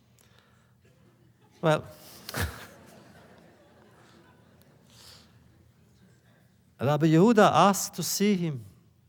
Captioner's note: laughter